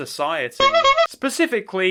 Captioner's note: clown horn